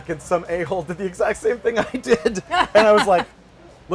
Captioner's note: laughter